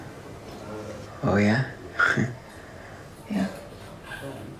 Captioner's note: chuckles